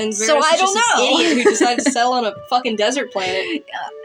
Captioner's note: laugh